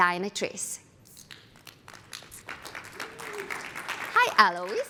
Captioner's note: applause